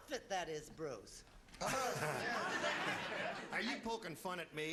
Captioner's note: laughing